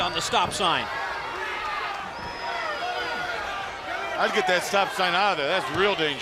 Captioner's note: crowd chatter